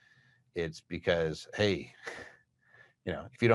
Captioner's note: chuckles